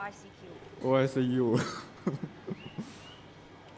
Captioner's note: laughs